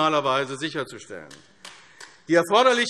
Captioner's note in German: Beifall AfD